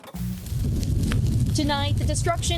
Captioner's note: fire crackling